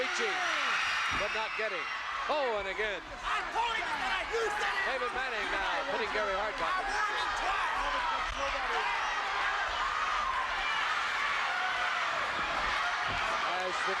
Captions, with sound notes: Fritz reaching but not getting, oh, and again. David Manning now putting Gary Hart back in the corner. I warned you twice. (audience cheering)